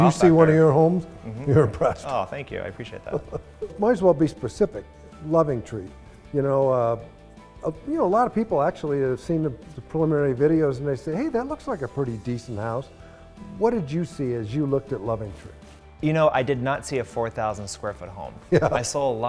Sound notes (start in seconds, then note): 2.8 laughing; 18.5 laughing